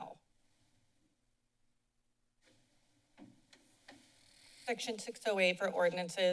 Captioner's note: silence